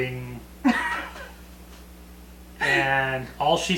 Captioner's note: laughing